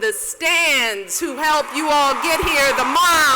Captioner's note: cheers and applause